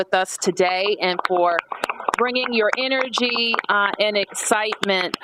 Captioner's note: applause